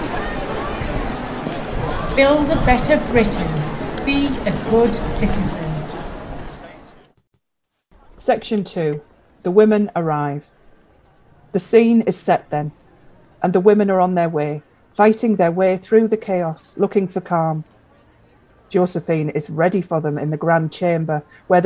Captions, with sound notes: Build a better Britain. Be a good citizen. [Muffled outdoor street noise] The Witness: Section 2 - the women arrive. The scene is set then and the women are on their way fighting their way through the chaos looking for calm. Josephine is ready for them in the Grand Chamber.